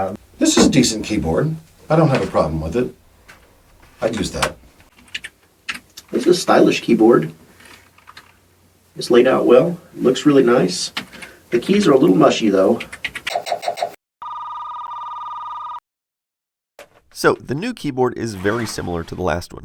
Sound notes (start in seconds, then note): 5.0 typing